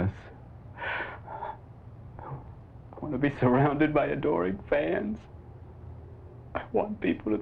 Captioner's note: sobs